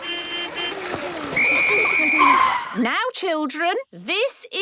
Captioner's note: whistle blowing